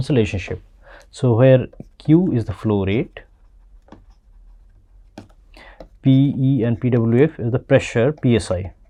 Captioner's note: pwf